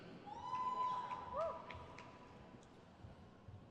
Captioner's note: crowd cheers